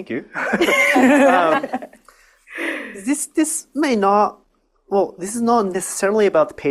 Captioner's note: audience laughs